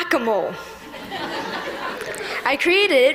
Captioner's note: laughter